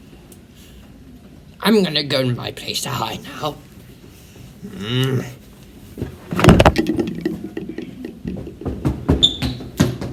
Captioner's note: water bottle falls